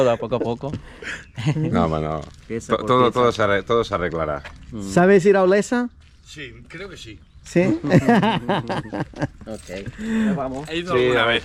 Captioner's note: laughs